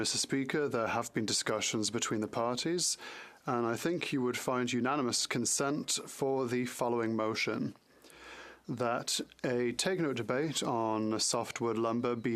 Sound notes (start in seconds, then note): 4.0 speaking French